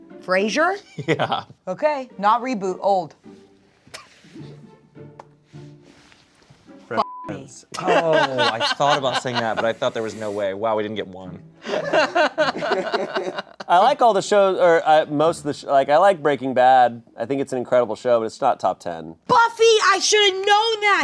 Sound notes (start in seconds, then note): 3.1 light music; 7.0 beep; 11.6 laughing